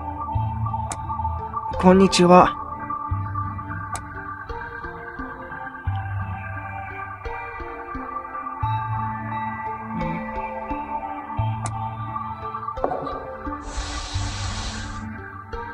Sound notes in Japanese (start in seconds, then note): 12.1 床を叩く杖の音：コォン; 13.6 床を擦る足の音：スー･･･